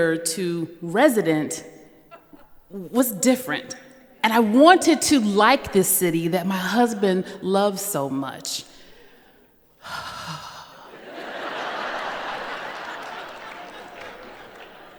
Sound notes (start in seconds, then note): 10.0 shaky exhale; 10.9 laughter